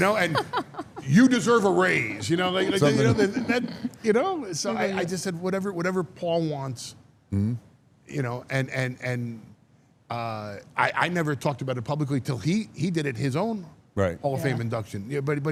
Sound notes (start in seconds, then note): 2.7 laughs